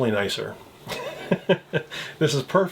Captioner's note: laughs